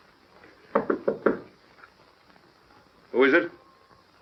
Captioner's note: knocking